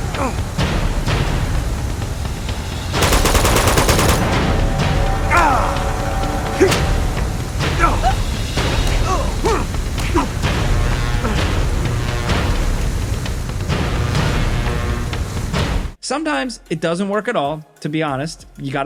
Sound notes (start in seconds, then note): 2.9 gun blasting; 5.2 Nate and Lazarevic grunting